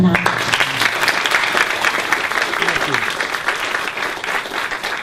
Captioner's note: audience applauds